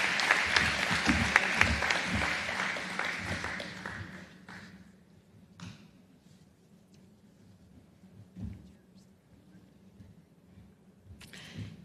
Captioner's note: applause